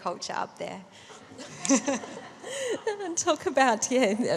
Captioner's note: laughter